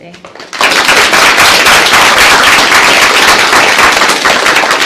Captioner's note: applause